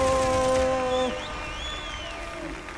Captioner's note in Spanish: Aplausos